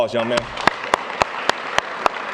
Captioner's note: applause